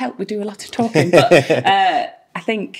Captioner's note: laughing